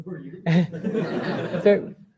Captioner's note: laughter